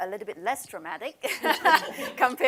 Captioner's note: laughter